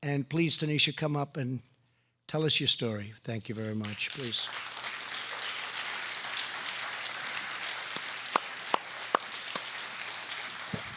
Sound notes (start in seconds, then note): 3.6 applause